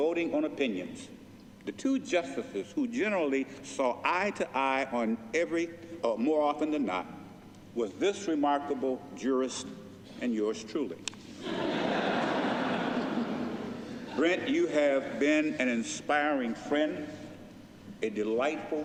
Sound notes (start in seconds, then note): 11.3 laughter